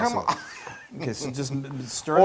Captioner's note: laugh